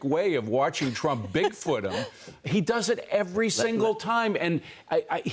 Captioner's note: laughter